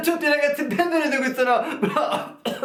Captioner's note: caughs